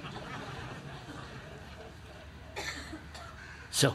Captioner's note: laughter